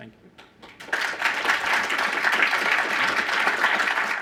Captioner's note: applause